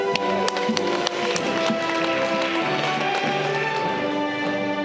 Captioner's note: audience clapping